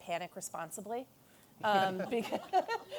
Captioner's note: laughter